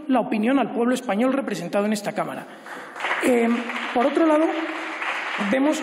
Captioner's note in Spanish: Aplausos